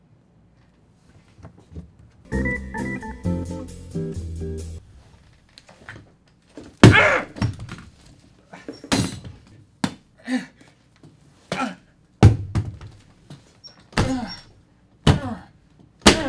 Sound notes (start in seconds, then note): 6.8 bang; 8.7 clank; 9.6 bang